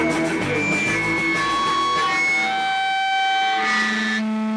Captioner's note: sound system beeps